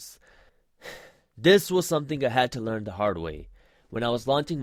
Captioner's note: sighs